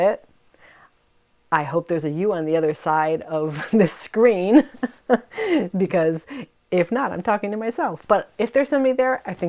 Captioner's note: laughs